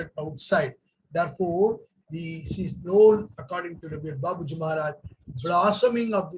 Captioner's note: speaks in Hindi